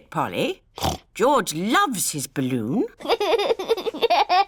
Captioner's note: snorts; laughs